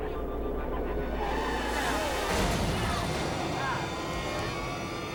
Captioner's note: tires screeching; tense music